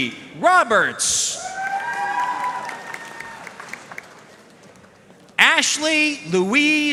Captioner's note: audience cheering and applauding